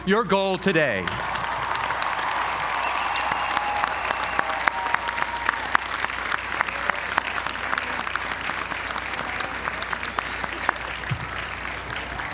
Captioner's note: applause